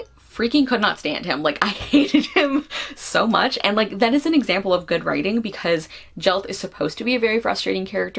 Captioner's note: laughs